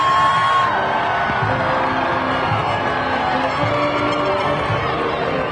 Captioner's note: crowd cheering